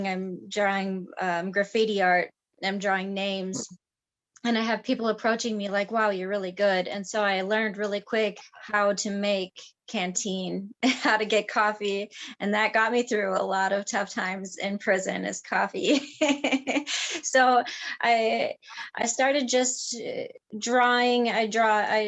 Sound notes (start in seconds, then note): 15.7 laughing